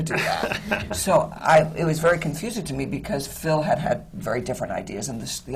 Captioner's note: laughs